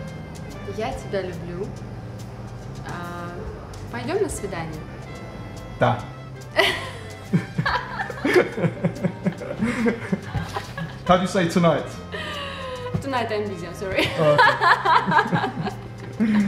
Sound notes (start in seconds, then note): 7.2 laughing